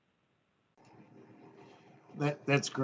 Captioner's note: no sound